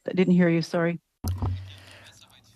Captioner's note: speaking french